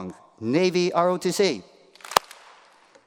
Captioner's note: applause